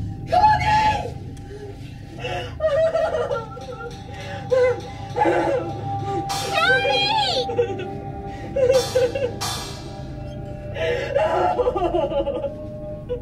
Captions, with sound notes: ( Gasping, Sobbing ) Courtney! - Mommy! - ( Samantha Continues Sobbing )